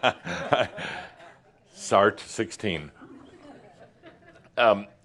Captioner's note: chuckling